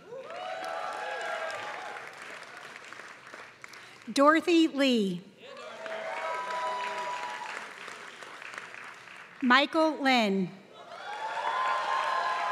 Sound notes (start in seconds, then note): 0.0 applause; 5.5 applause; 10.9 applause